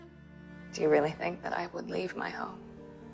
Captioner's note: voiceover